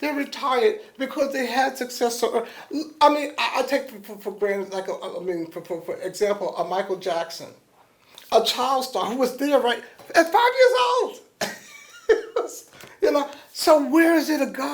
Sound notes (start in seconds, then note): 11.4 laughs